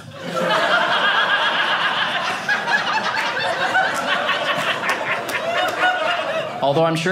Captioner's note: audience laughing